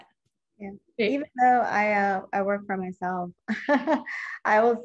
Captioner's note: laughs